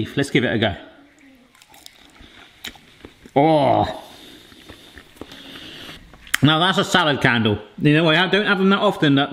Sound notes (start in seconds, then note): 1.0 chewing; 3.2 groaning